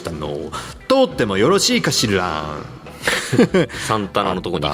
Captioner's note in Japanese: 笑い